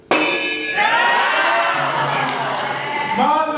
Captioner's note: animals cheer